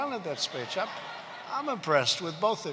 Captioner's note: laughter